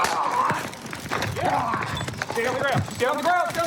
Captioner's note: taser sounds; growling sounds